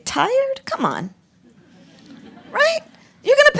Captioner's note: laughter